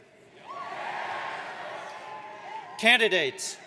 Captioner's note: audience cheers